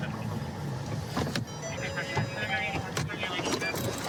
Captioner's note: car door chiming